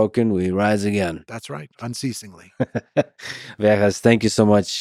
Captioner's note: Lex laughs